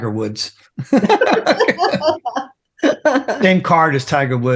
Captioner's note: laughing